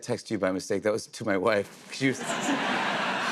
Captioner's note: laughter